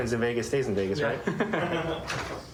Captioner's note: laughter